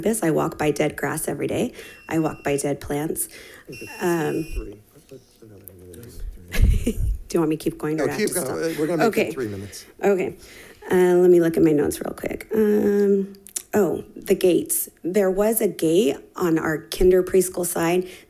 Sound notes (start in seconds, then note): 3.6 timer beeping; 6.4 chuckling